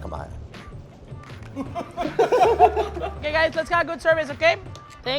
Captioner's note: everyone laughs